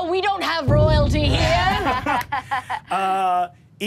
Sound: laughs

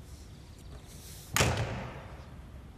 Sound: door closing

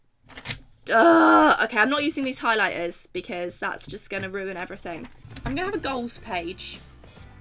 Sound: groans

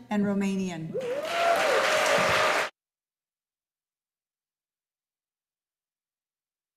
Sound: audience cheering and applauding

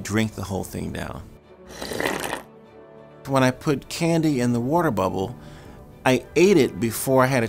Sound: slurp

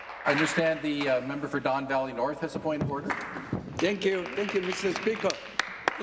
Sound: applause

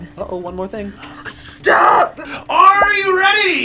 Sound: gasps

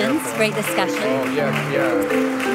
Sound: applause

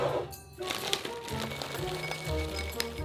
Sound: peas dropping

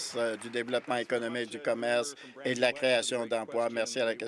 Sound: applause

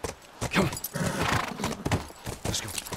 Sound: hoofbeats; horse brays

